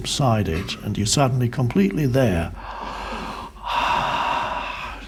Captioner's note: sighs